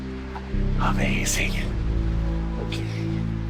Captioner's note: whispering